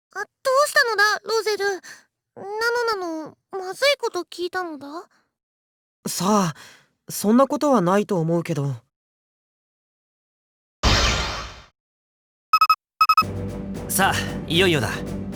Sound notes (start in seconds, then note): 9.3 silence